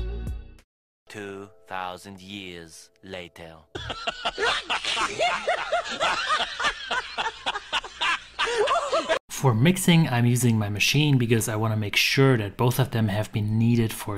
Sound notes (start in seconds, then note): 4.0 monkeys laughing